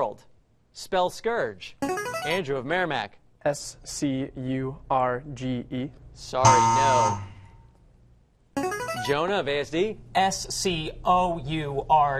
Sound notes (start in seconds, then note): 1.0 buzzer plays; 5.3 buzz; 6.4 buzzer plays